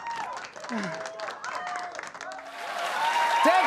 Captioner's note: cheers and applause; sighs